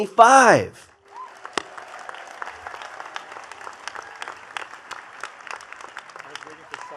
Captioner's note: attendees cheering and clapping